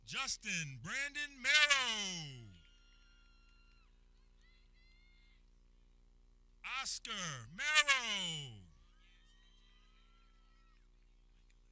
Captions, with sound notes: Justin Brandon Merrow (people cheering) Oscar Merrow (people cheering)